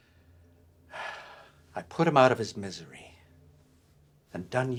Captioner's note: sighs